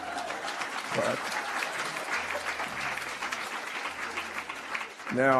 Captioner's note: laughter and applause